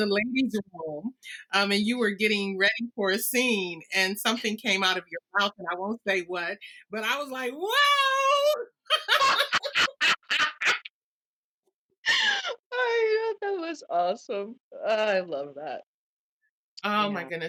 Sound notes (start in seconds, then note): 12.3 laughter